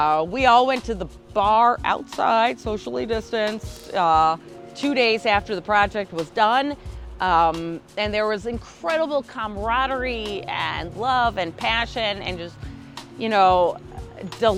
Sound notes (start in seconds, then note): none